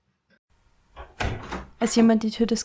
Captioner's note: door opens